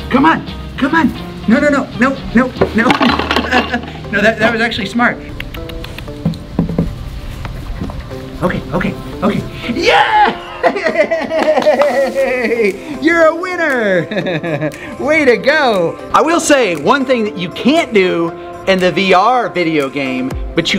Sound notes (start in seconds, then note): 3.2 laughs; 5.3 clicks tongue; 10.6 laughs, claps